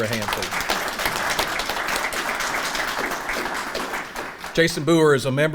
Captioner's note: audience applauding